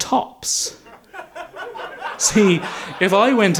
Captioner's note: audience laughs